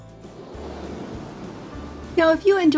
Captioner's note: gentle upbeat music; wind whooshing